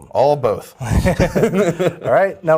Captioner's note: laughs